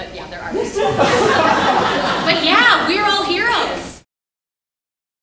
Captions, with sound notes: but yea they're artists (audience laughs) but yea, we're all heroes!